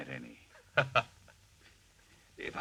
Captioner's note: Albert laughs